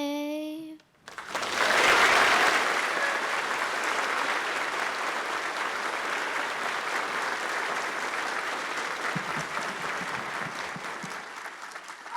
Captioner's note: applause